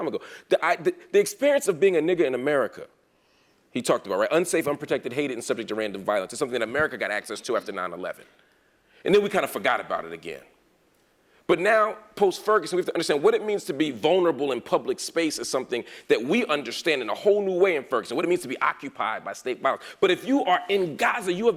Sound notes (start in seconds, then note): none